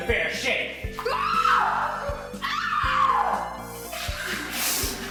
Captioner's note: screams!